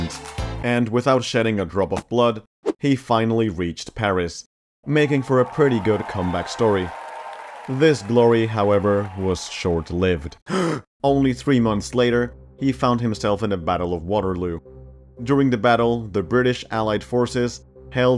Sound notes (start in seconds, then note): 4.8 people cheering; 10.4 gasp